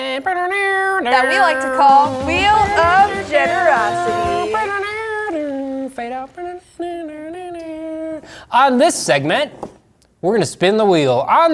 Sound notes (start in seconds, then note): 1.0 imitates guitar; 7.0 imitating guitar